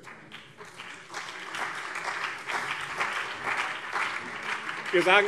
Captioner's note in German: Beifall